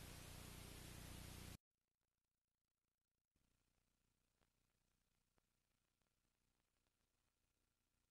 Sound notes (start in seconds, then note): 1.8 silence